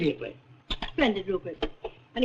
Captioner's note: phone clicks